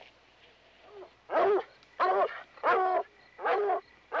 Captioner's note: dog barking